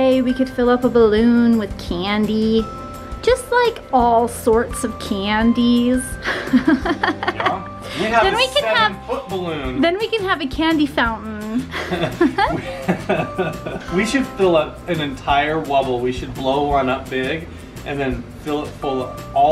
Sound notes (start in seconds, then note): 6.2 laughs; 11.6 laughing